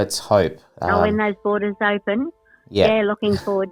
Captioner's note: phone voice